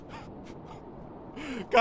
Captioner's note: pitiful cry